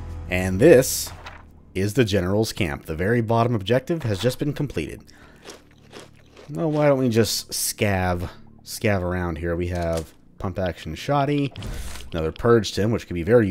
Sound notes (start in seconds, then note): 1.0 journal opens; 5.4 journal closes